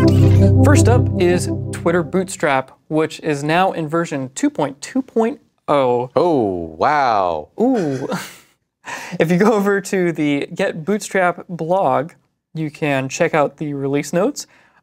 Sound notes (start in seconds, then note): 7.6 both chuckle